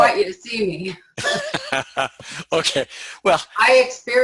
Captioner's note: chuckles